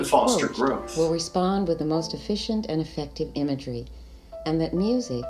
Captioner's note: female voiceover recording